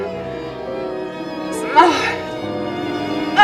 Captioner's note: sighs